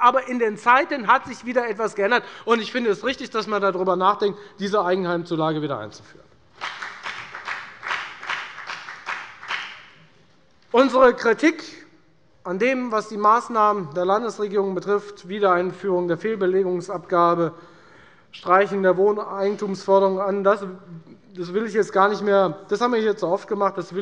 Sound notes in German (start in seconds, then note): 6.5 Beifall bei der FDP